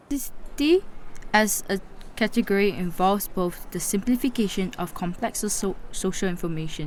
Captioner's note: voice-over